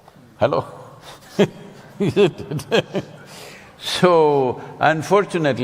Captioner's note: laughs